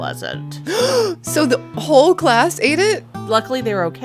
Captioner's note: gasp